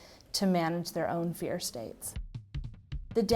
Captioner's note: none